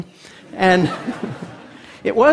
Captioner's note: Laughter; 笑聲